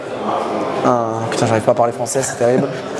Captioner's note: laughs